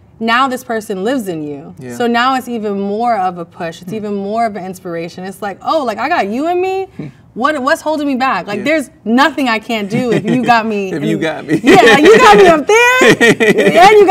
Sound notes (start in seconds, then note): 9.9 man laughs; 11.2 both laugh